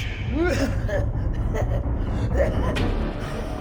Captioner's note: coughing badly